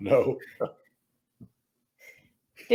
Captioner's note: laughs